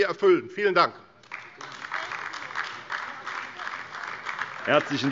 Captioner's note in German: Beifall AfD - Zurufe SPD und DIE LINKE